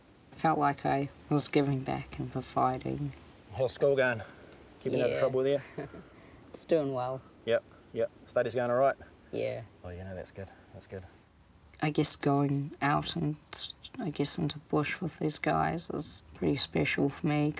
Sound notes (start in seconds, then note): 5.3 chuckles